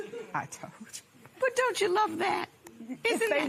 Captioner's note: laughing